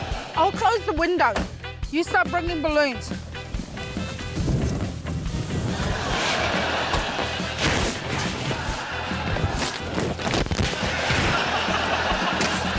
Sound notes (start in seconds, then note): 5.7 laughter